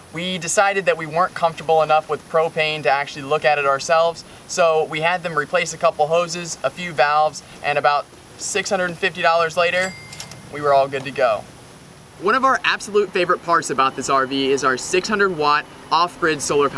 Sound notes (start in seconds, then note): 9.7 cash register ding